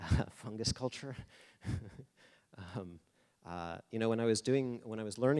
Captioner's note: laughing